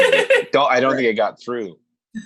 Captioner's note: laughing